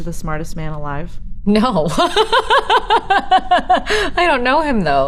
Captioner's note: laughing